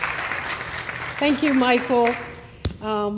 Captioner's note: applause